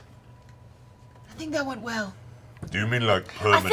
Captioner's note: whispers